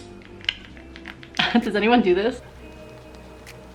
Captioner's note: clicking; chuckling